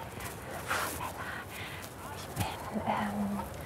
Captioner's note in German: flüstert